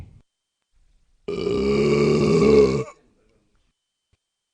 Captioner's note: burp